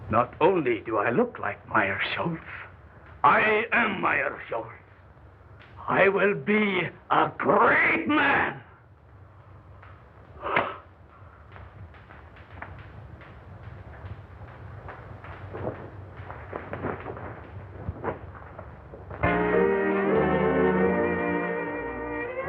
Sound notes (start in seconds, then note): 3.2 With Meirschultz voice; 10.4 sighs